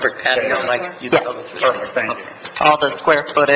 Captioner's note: members chattering